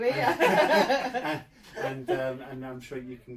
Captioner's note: laughter